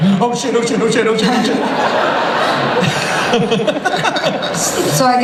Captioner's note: laughter